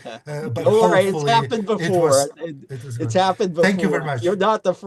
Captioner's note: chuckles